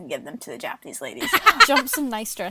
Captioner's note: laughs